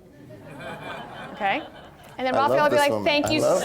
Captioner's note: laughter